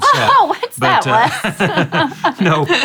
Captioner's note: laughs